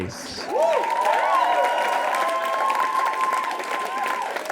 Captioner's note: audience cheers and applauds